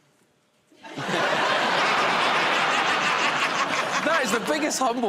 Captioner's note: laughter